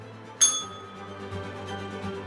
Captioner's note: bell rings